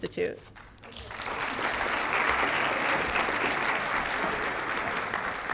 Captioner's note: applause